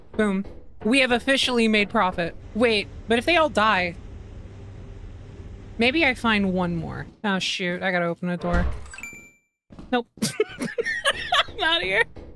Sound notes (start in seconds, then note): 8.5 sub notification sound; 10.2 laughs